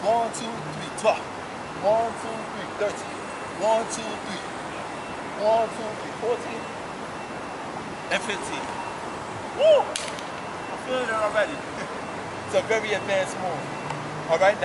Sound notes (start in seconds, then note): 9.9 hands smacking